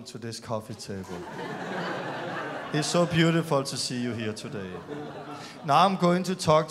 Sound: laughter

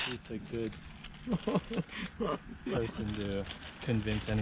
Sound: laughing with food

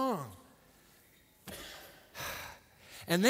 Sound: sighs

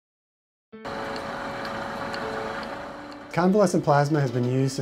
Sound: machine whirs

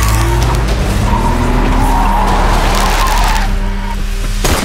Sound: tires screeching; gunfire

